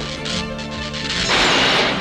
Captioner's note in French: Bruit d'explosion